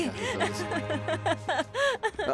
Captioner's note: Esperanza ríe